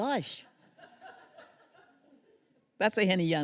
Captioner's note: laughter